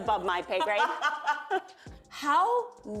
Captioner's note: laughter